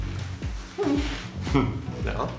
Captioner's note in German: Leichtes Lachen